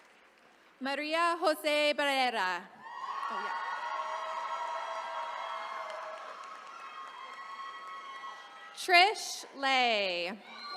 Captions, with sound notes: Maria Jose Barrera. (attendees cheering) Trish Le.